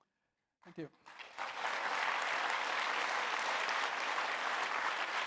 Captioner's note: audience applauds